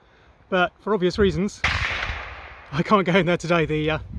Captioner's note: rifle shot